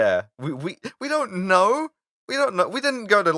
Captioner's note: defensively